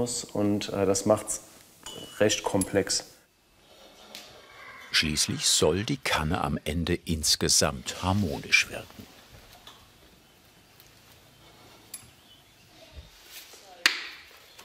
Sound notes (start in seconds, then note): 11.0 quiet chirping of birds